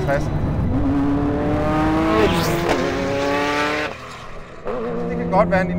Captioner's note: Ferrari F40 blows past